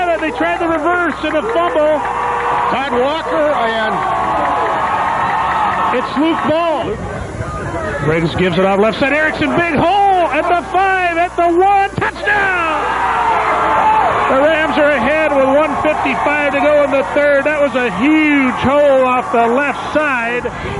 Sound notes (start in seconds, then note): 13.0 crowd cheers